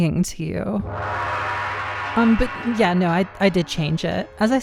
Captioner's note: ominous gong